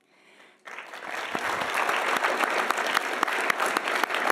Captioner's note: audience applauding